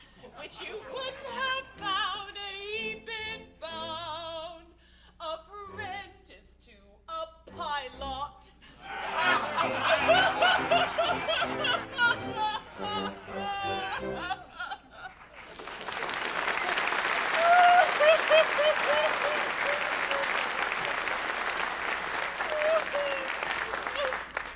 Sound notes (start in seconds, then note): 8.8 pirates laughing; 9.2 Ruth crying; 15.0 applause